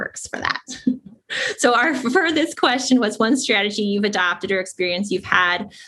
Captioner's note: laugh